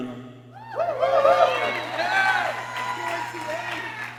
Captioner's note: people cheering